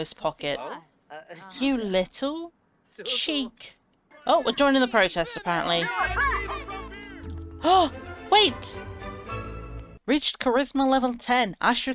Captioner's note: gasps